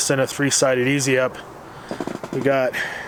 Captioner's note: radio static